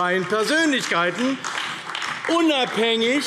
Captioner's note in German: Beifall AfD